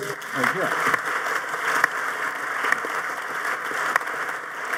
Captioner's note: audience applauding